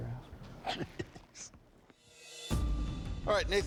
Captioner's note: laughs